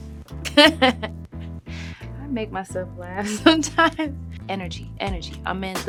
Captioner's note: chuckles